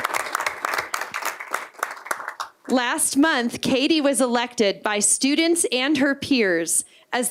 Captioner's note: applause